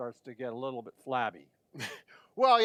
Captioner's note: laughing